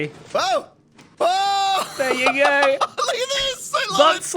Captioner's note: laughs